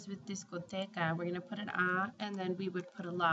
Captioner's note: spanish